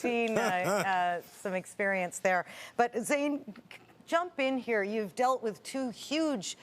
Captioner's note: laughter